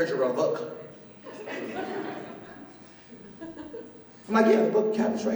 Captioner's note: laughter